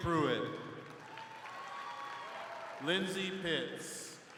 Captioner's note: crowd cheering